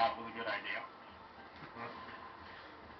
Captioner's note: chuckles